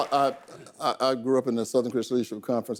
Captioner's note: audience applause